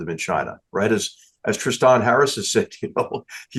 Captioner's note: laugh